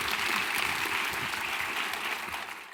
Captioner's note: audience clapping